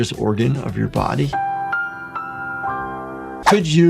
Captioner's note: graphics chimes